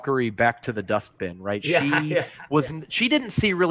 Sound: laughing

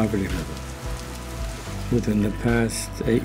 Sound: rain falls

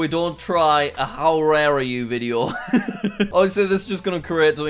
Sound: chuckles

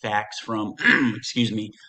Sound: clears throat

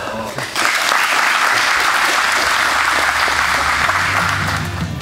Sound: spectators applauding; upbeat rock music

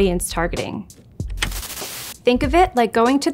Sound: TV remote clicks

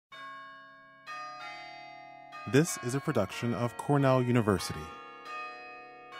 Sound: bells chiming

